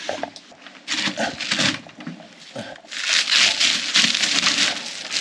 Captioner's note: plastic ripping